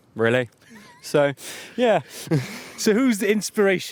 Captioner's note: laughs